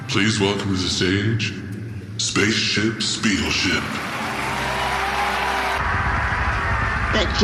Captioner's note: cheers and applause